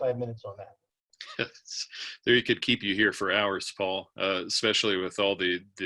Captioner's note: laughs